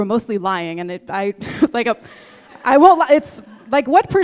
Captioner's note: audience laughing